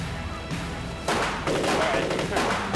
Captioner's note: rapid gun fire